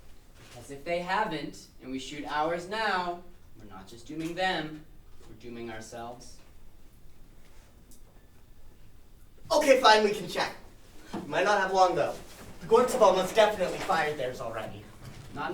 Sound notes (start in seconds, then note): none